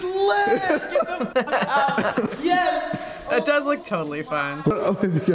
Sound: man laughs; laughs

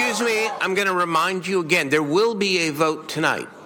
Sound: cheers and chanting

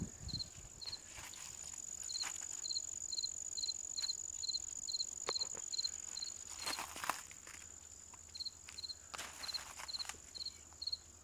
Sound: cricket chirping

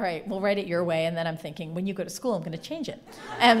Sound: laughter

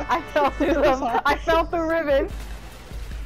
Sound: laughs

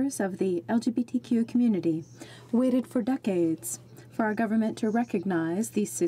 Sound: speaking French

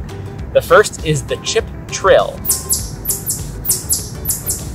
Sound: Chip trill vocalization plays

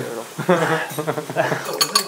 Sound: sighing

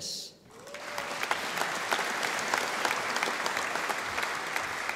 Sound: audience applauding

